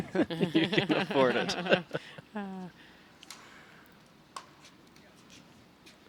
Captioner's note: laughing